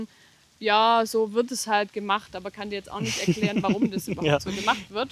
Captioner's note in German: gelächter